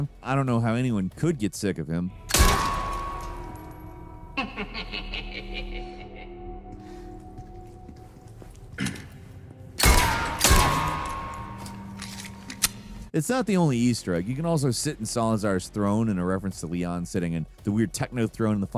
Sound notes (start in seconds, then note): 2.3 gun popping; 4.3 Salazar laughing; 9.8 gun popping